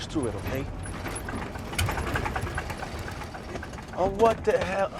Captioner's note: engine sputters